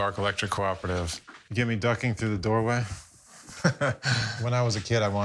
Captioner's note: laughs